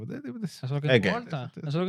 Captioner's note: speaking In Foreign Language